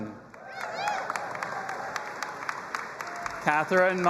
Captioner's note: audience applauding and cheering